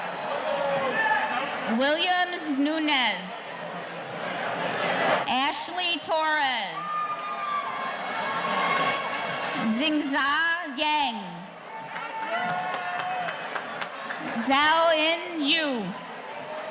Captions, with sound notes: Williams Nunez. Ashley Torres. (audience cheering) Zingza Yen. Zauin Yu.